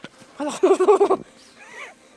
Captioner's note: weird laughing